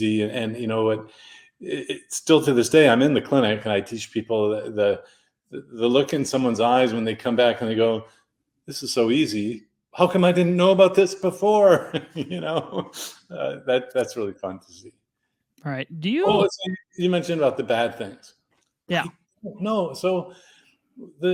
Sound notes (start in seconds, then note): 11.6 laughs